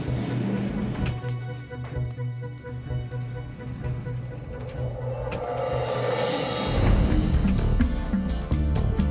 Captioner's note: dramatic Music; engine Revs